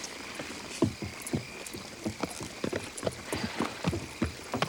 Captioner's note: hooves clop